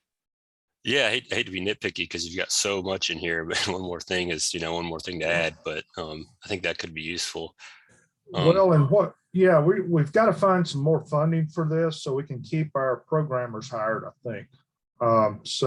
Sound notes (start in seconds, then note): 3.5 laughter